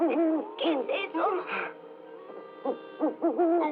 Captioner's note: owl Hooting; hoots